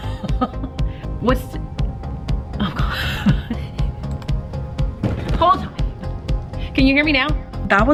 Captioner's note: laughs